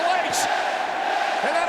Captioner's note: audience chanting